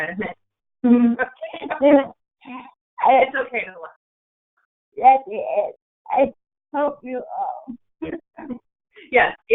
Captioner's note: laughing